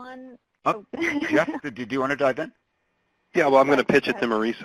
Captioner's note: chuckles